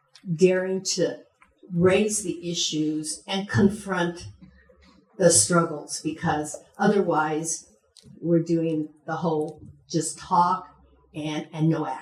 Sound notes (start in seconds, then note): none